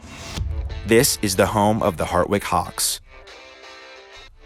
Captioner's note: male Voice